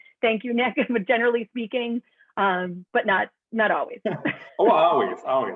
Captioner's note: laughter